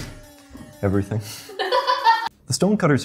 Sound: laughs

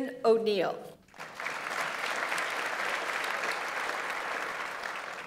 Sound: audience applauds

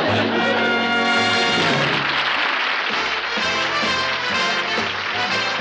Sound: applause

